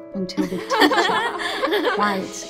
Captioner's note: students' laughter